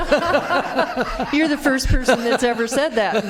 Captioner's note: laughter